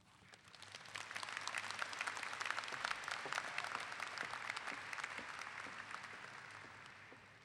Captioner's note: clapping